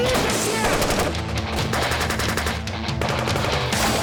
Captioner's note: gunshots